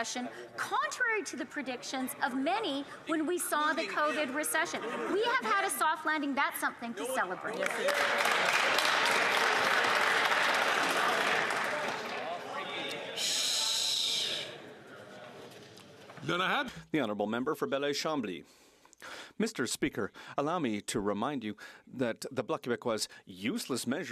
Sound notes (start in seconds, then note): 11.2 some Applause